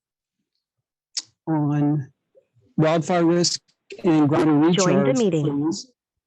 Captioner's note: background "joined the meeting" interference